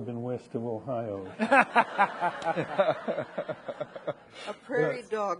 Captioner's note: audience laughing